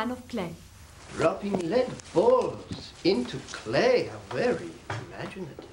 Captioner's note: <i> sarcastically</i>